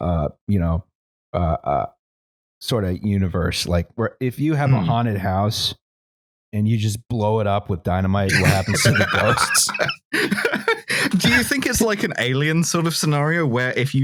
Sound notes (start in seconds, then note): 8.3 laughter; 8.3 laughs